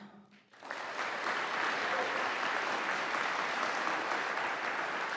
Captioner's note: audience applauding